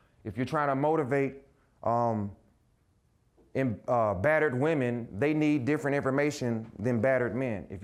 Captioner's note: none